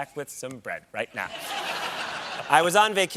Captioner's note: laughter